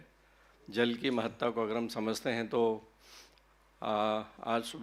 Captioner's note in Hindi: नाक से की जाने वाली आवाज़